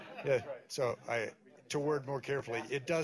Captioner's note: laughter